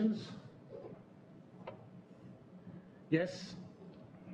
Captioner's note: pause